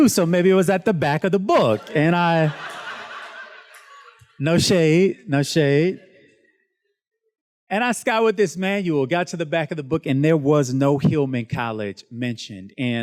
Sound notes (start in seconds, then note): 1.5 students laughs